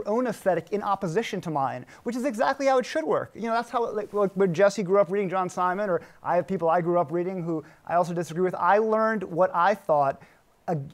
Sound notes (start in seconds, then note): none